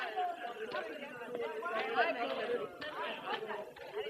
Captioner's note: indistinct chatter